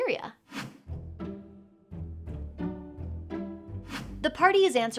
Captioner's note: air whooshing; gentle mysterious music